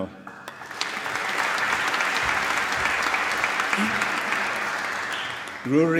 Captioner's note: applause